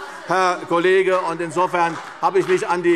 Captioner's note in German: Beifall CDU